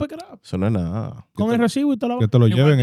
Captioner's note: speaking In Foreign Language